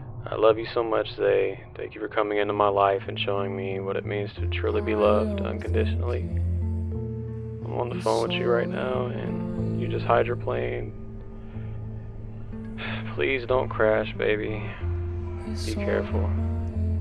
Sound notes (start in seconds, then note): 12.8 sigh